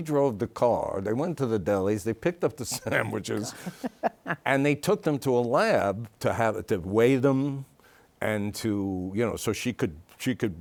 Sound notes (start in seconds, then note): 2.7 laughs